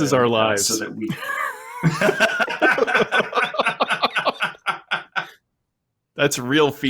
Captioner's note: laughter